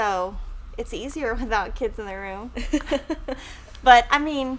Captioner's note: laughing